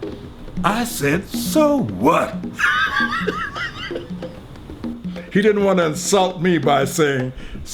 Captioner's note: laughs